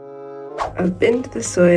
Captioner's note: whoosh